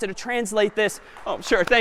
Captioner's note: applause